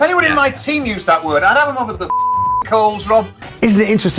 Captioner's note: beep